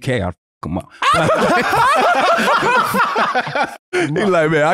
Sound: laughing

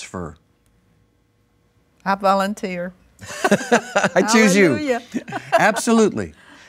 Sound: laughs

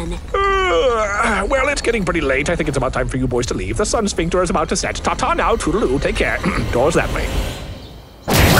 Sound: yawn

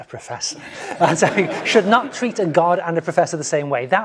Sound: laugh

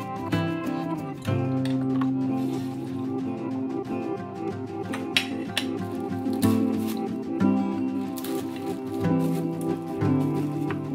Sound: piano music fades out; various clicking and cooking sounds

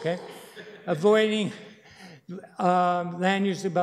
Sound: laughter

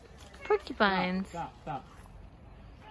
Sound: birds chirping

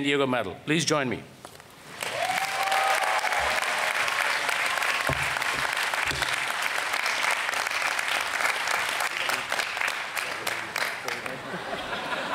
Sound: applause

